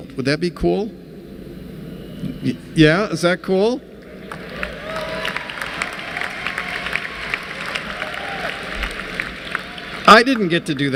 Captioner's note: applause